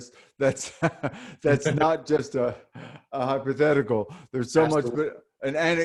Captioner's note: laughs